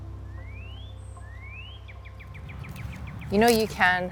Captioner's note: birds chirping